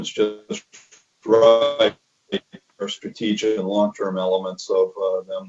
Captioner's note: mic cuts out